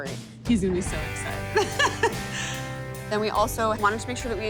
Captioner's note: laughs